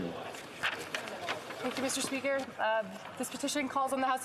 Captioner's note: speaking French